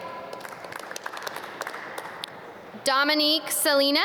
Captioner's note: audience clap